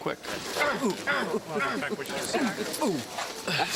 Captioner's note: groaning; grunting